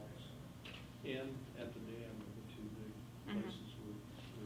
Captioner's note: faintly speaking